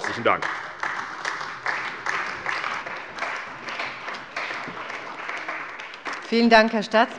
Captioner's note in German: Beifall bei der CDU und dem BÜNDNIS 90/DIE GRÜNEN